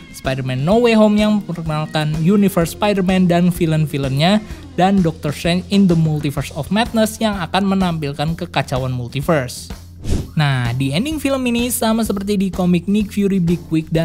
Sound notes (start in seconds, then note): 10.0 transition sound